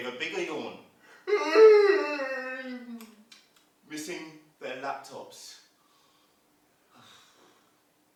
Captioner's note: sound of yawning